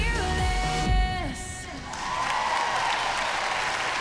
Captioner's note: audience whoops, applauds